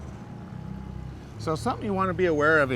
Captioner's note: boat engine idling